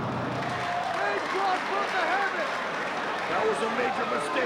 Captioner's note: spectators applauding